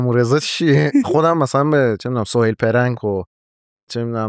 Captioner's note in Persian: خنده